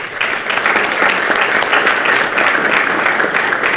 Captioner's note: participants clap